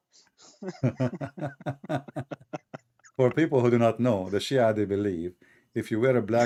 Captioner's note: Ketawa